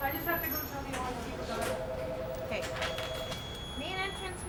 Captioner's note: phone ringing